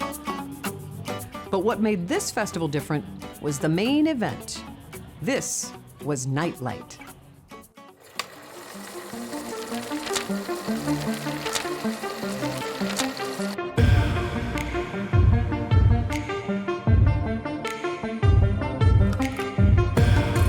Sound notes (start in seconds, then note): 0.3 light music continues; 13.4 film rattling; 13.4 gentle electronic music; 17.0 upbeat electronic music